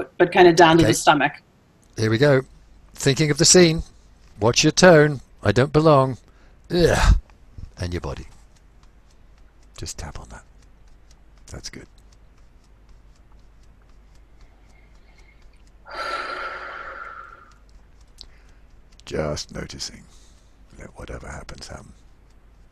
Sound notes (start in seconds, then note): 8.7 fingers tapping softly; 15.8 sighs